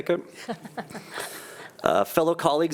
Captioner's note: laughing